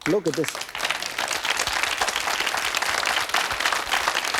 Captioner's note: audience applauding